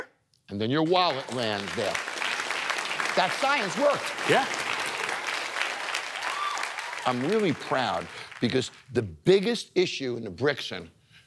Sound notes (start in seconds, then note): 1.4 applause